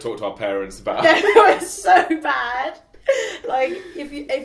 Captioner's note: laughing